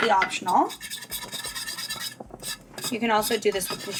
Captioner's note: metallic scraping